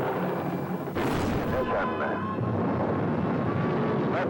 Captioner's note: man on radio